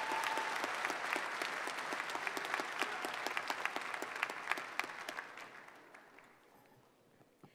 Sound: applause

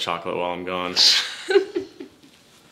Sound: laughter

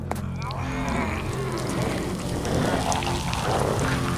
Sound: footsteps thudding; flesh sizzling

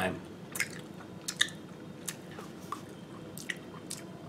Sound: continued smacking sounds

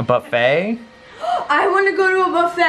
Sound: gasps

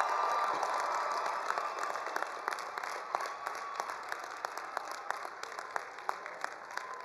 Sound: attendees applauding; attendees cheering

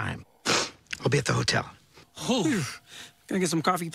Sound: sniffs

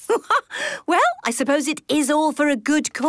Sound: laughs

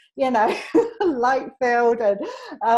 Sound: laughs

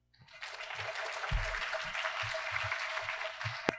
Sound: crowd clapping

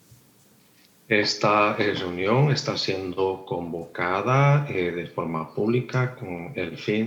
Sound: translator speaking in foreign language

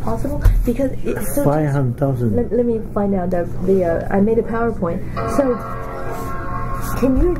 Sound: computer startup sound

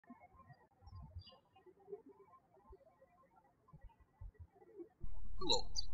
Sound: birds chirping

